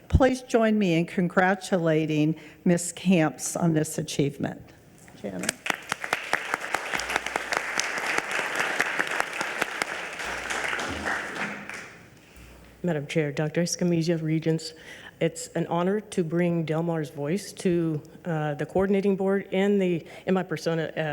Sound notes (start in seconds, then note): 5.4 regents and audience applaud